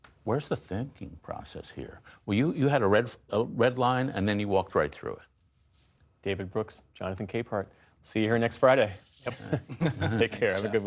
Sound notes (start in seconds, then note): 9.2 laughter